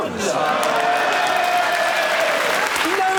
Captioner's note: cheering